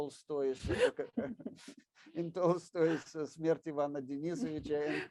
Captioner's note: speaks in foreign language